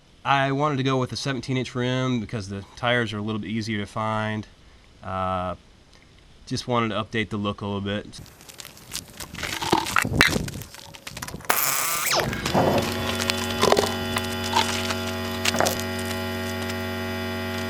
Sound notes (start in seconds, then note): 10.0 changing tire: impact gun, air compressor sound